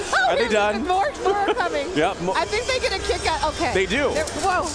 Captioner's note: laughter